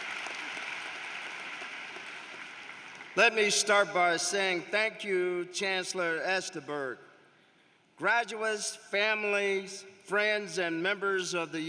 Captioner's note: applause